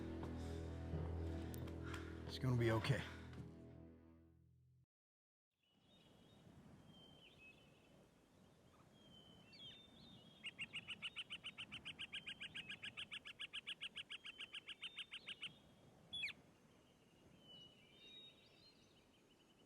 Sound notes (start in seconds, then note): 5.9 birds chirping